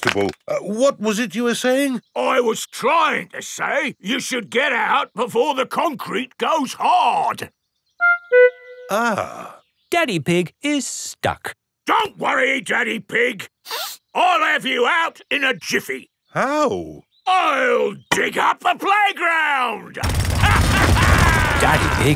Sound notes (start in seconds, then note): 13.6 sniffs; 20.0 drilling and laughing